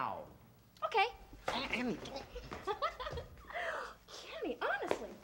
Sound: Annie laughing

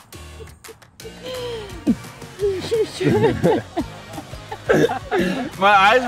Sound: laughing

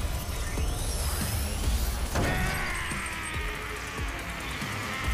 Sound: roaring

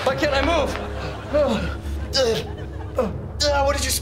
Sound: grunting

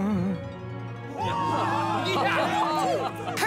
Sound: cheering

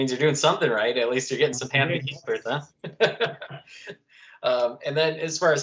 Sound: laughter

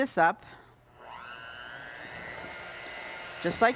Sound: mixer whirring

